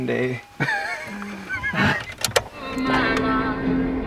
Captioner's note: laughing